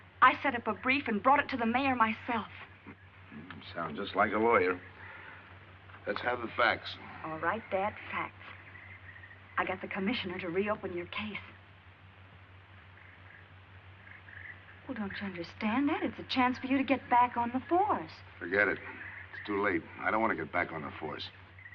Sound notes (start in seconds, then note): 2.8 chuckles